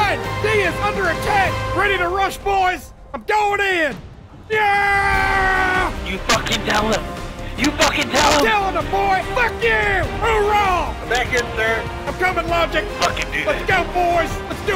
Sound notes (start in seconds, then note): 4.3 starts yelling